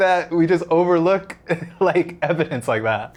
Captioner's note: laughs